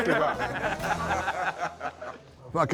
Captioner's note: laughing